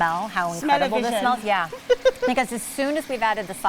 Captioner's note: laughs